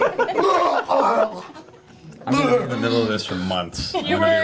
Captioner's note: all laugh